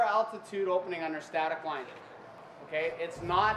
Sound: voiceover

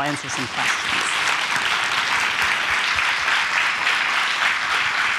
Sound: audience applauds

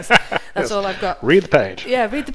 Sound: laughs

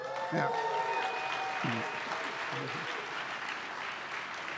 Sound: applause

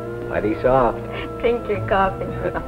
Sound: laughter

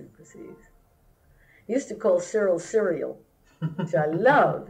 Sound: laughter

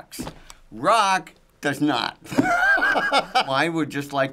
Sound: laughing

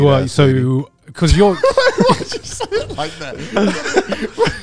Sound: laughing

